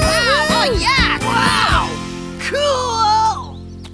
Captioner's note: kids cheering